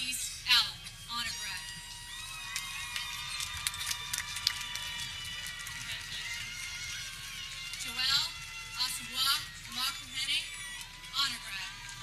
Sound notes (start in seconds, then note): 2.0 people cheering; 2.3 air horn blares